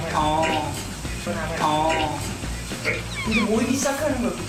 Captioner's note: sounds of despair